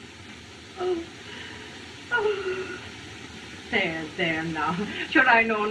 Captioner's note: moaning